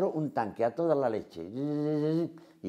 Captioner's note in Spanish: imita sonido